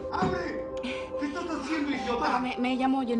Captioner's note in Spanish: Golpes